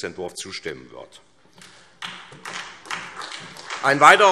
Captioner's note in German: Beifall SPD und vereinzelt BÜNDNIS 90/DIE GRÜNEN